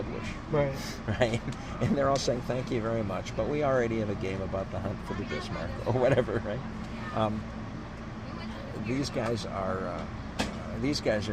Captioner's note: laughs